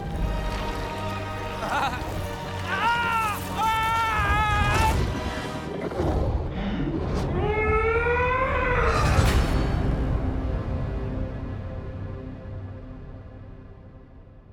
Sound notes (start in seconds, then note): 2.6 screaming; 7.3 scream